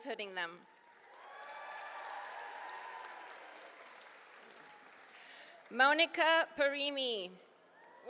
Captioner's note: applause